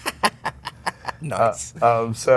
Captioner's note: laughing